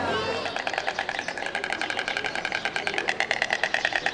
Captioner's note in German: Schnabelklappern der Störche